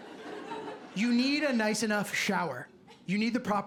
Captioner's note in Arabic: ضحك